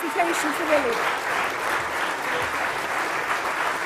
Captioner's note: applause